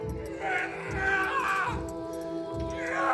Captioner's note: yells